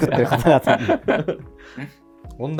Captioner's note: laughing